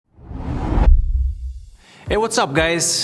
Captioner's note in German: Luft whooshing